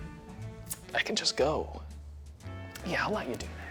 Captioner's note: none